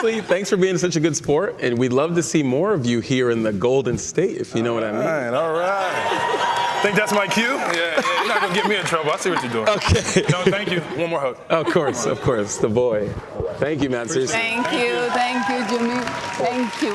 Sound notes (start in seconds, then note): 1.5 cheers and Applause